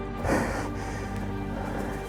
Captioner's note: breathing